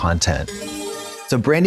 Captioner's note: bright chime